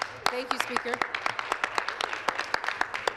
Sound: applause

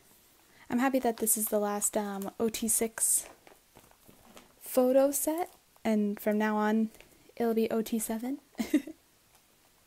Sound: laughs

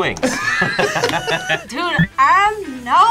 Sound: both laugh

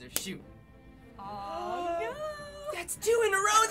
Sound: gasps

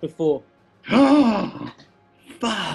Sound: gasps

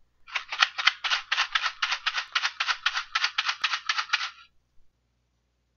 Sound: shaking sound

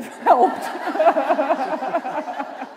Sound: laughter

